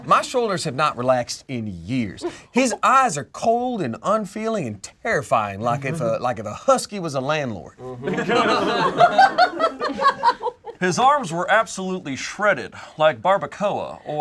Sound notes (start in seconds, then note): 8.0 group laughs